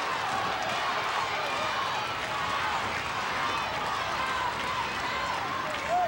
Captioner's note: audience cheering and applauding